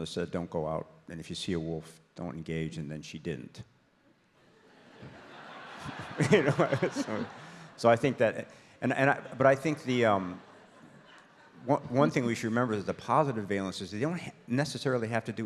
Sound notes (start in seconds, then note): 4.5 audience laughs